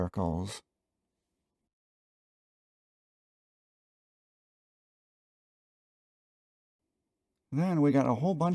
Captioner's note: dramatic silence